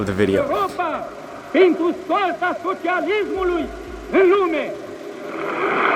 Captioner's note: foreign language